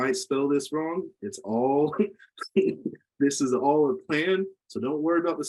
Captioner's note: laughs